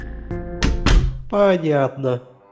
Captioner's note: door slam